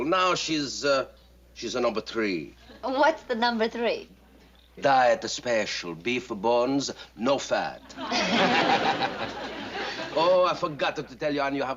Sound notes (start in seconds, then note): 7.8 laughter